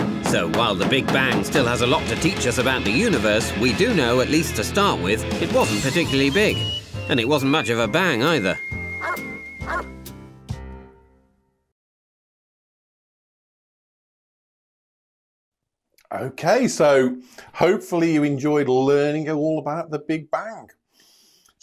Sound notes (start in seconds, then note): 0.0 rock music; 9.6 dog barks